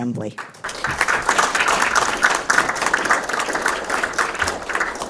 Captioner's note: attendees clapping